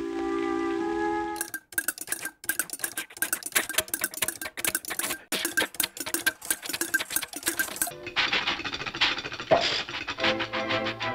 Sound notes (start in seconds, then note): 1.2 sound of engine clattering; 3.2 chuffing; 8.0 engine chuffing and clattering